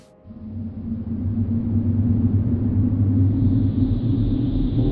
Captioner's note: wind howls